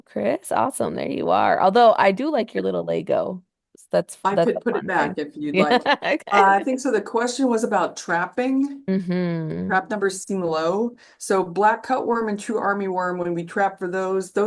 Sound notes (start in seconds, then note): 5.5 chuckles